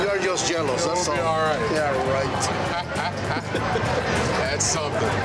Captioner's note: laughs